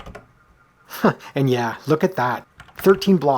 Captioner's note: chuckle